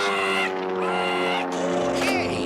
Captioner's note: squawk squawk